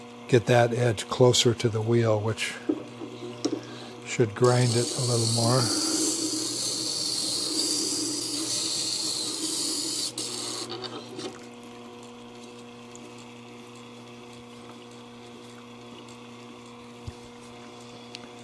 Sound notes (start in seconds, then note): 6.0 grinding & motor noise